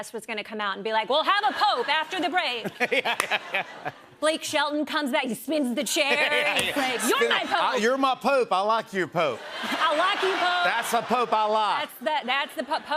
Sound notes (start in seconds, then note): 1.4 laughter; 12.3 laughter